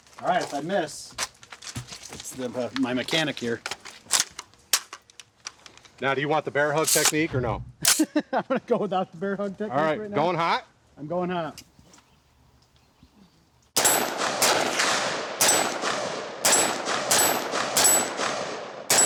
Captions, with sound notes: All right, if I miss, it's my mechanic here. - Now, do you want the bear hug technique or no? - (laughs) I'm gonna go without the bear hug - All right, going hot. - I'm going hot. (shots firing)